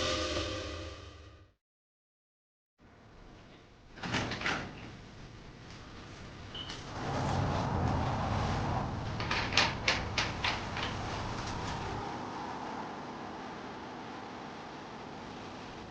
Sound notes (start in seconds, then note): 0.0 thrilling music; 4.0 door clicks open; 9.2 tools rattle; 12.3 thrilling music swells